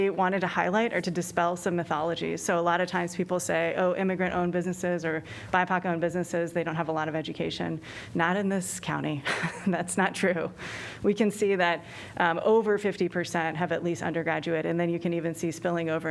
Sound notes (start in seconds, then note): 9.2 laughter